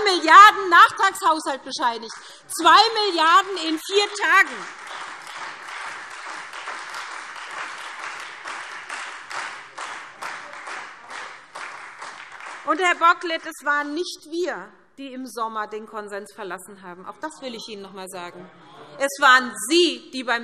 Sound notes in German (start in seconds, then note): 6.0 Beifall SPD und Freie Demokraten